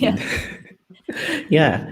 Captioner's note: group laughs